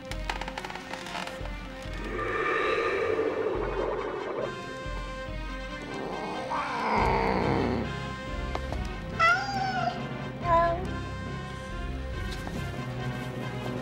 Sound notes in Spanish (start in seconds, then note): 1.9 viento silbando; 6.5 gato maullando; 9.3 Aruna maullando